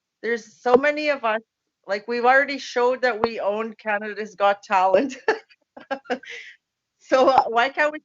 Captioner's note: laughs